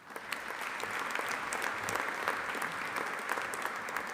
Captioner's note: audience applauding